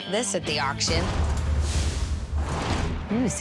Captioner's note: door rattling